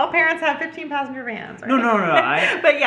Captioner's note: giggles